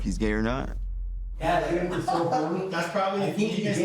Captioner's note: indistinct chatter and laughing